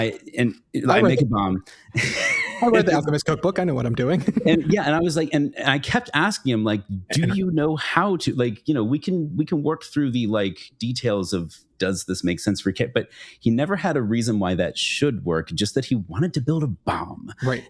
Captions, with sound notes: I make a bomb. (laughs) I wrote the Alchemist cookbook, I know what I'm doing. Yeah, and I was like, and I kept asking him like, do you know how to, like, you know, we can work through the like details of, does this make sense for Kit? But he never had a reason why that should work, just that he wanted to build a bomb